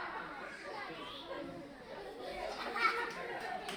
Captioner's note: laughter; applause